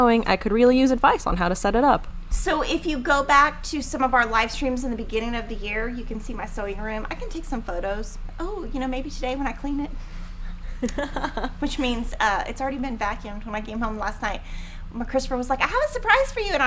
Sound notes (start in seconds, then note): 10.8 laughing